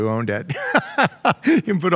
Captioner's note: laughs